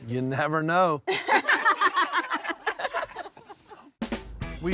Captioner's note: laughter